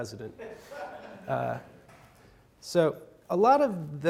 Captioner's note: audience laughs